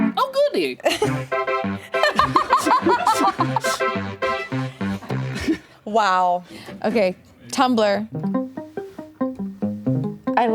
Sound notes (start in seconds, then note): 1.0 bright keyboard music; 1.9 laughs; 8.1 lively keyboard music